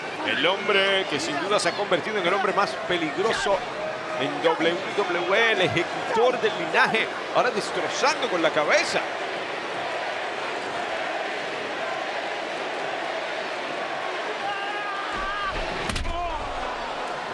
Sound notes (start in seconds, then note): 0.0 applause; 9.5 applause